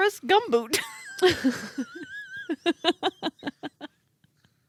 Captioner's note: laughing